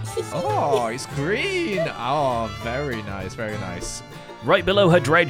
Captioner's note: giggles